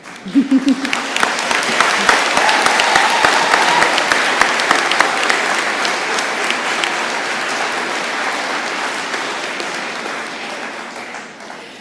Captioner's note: applause